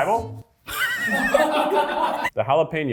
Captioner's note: cast laughs